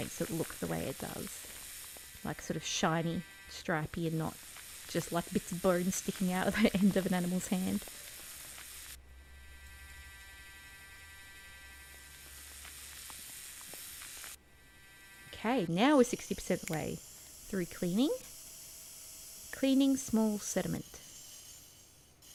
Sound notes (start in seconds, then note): 9.4 mechanical drilling/vibrating sound